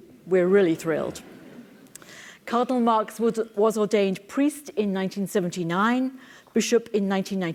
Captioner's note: laugh